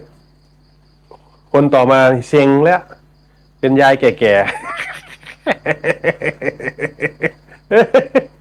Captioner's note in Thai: เสียงหัวเราะ